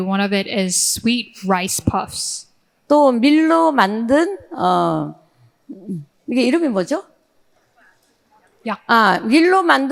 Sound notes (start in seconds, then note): 2.9 speaking in foreign language